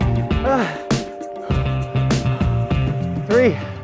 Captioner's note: grunts